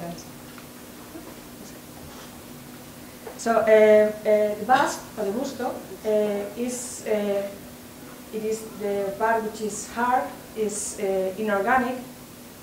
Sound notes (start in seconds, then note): 4.8 spanish